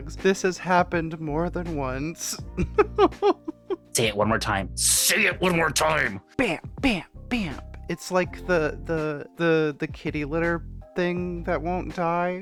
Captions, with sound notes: This has happened more than once. (laughing) Say it one more time. Say it one more time. Bam, bam, bam. It's like the kitty litter thing that won't die.